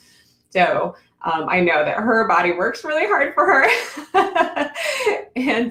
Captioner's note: laughs